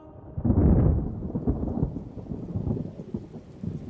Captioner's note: thunder rumbling